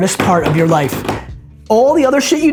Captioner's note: bangs on the table